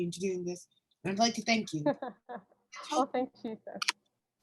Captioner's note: laughs